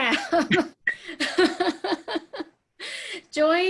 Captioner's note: laughing